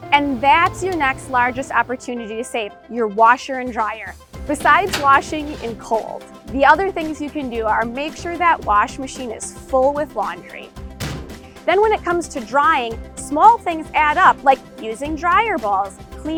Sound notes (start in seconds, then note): 11.0 banging loudly